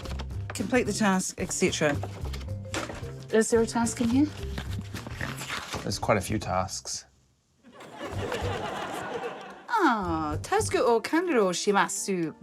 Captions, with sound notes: Complete the task, etc. Is there a task in here? - There's quite a few tasks. - (LAUGHTER) - Oh. Tasuku o kanryo shimasu.